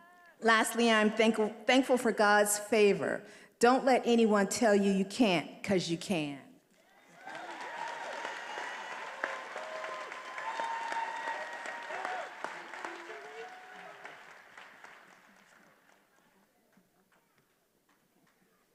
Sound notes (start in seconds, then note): 6.8 attendees applauding and cheering